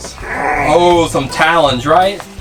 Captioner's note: growls